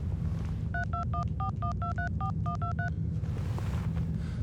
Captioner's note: dial beeping